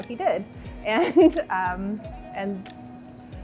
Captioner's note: laughs